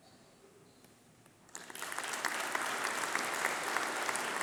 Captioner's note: applause